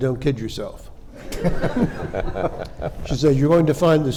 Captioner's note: panelists and audience laughing